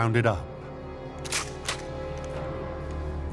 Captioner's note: gun cocks